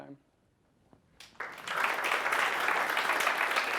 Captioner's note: applause